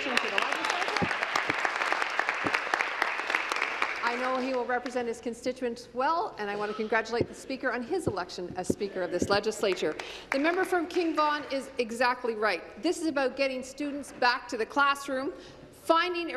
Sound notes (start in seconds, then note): 6.5 applause